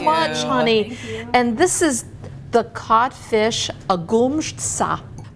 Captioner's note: speaking foreign language